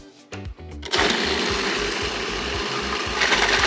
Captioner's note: whirring